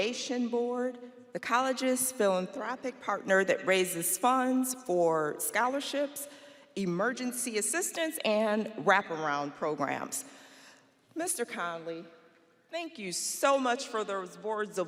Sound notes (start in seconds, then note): none